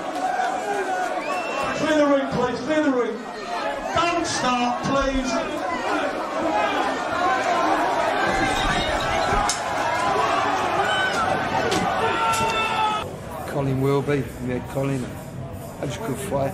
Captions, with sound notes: All right, clear the room please, clear the room. Don't start please! (glass breaking) (screaming) - Colin Wilby, yeah Colin, that was a good fight